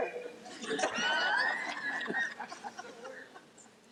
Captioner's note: laughing